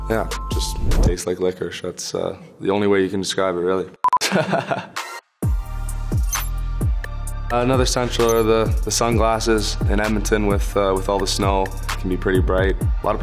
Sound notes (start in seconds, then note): 4.2 Connor laughing; 5.4 light music